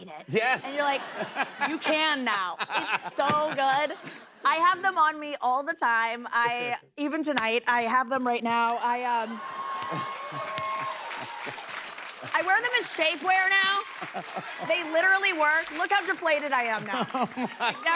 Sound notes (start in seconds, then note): 9.7 cheers and applause